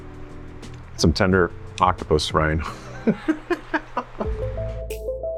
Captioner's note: laughs; chilled music